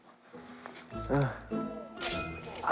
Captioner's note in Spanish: Suspiro